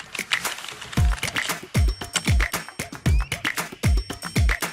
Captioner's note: upbeat music; keyboard tapping